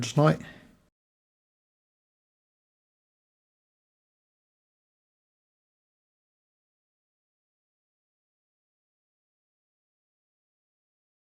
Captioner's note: silence